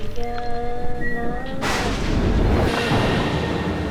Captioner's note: thunder crashes